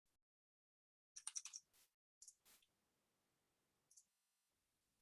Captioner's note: mouse clicking